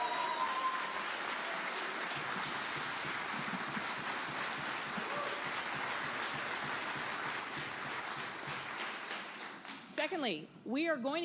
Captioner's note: applause